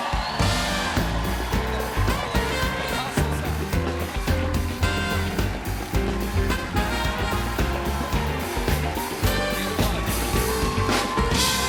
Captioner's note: applause